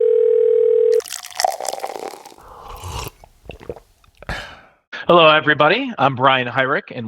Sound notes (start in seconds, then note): 0.0 phone ringing; 0.9 liquid trickling; 2.7 lips sipping; 3.7 throat swallowing and exhaling